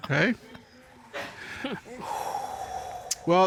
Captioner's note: Judge Dana exhales sharply